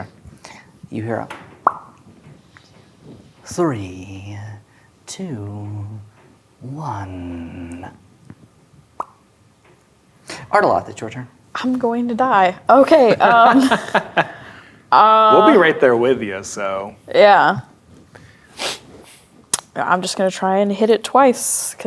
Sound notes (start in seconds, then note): 1.3 pops; 8.9 pops; 13.0 laughing; 18.5 sniffs